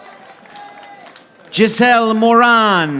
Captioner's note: audience applauding